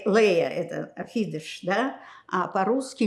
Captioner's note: yiddish